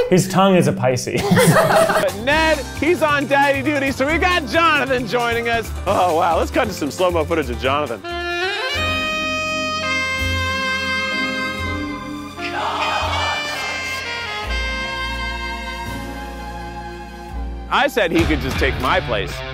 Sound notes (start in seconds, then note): 8.0 sexy saxophone music; 12.3 whispering sexily